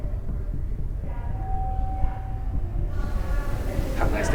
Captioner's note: elevator bell rings